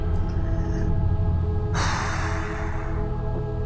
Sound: exhales heavily

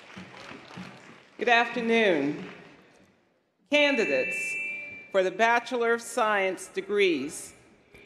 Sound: applause

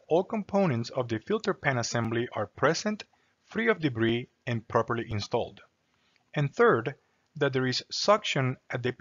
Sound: click; click

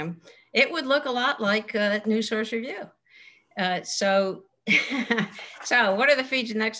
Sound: laugh

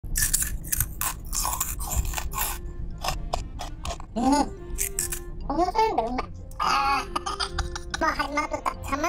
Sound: sound of eating snacks

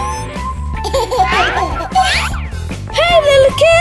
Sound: baby laughing

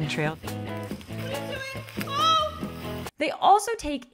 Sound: yells

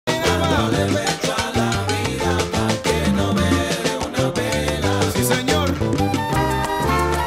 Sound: applause

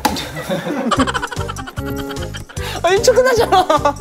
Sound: giggle

